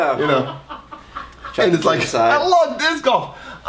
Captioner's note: laughs loudly